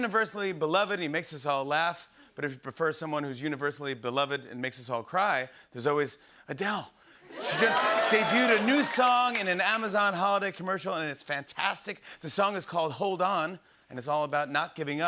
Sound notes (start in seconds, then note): 7.3 cheers and applause